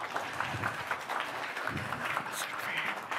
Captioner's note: applause